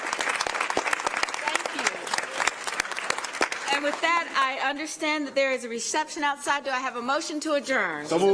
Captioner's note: applause